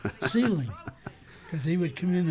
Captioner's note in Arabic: يضحك